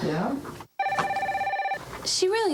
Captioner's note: phone ringing continues